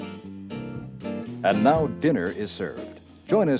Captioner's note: voiceover